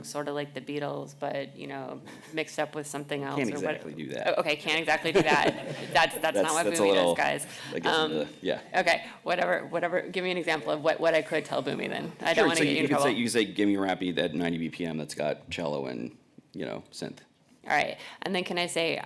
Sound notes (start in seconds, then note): 5.0 laughter